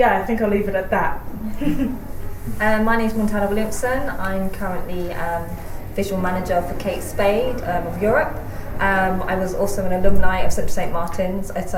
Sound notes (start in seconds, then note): 1.3 laughs